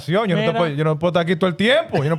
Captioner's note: speaking In Foreign Language